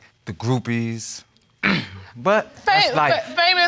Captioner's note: clears throat